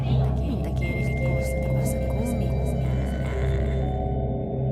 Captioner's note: Echo voice of Sarah's friend Janice